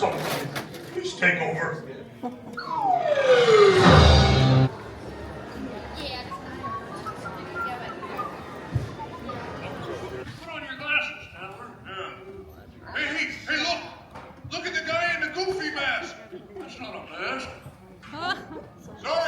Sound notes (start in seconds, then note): 5.3 crowd chattering indistinctly